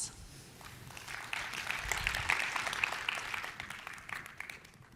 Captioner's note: applause